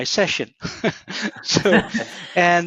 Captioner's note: both chuckling